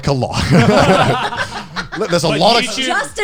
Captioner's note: all laughing